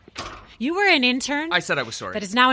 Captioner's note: door closes